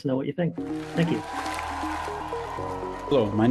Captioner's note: applause